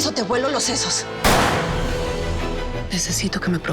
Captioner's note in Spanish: Disparo